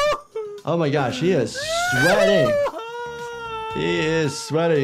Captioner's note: Speedy crying